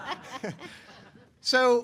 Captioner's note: laughter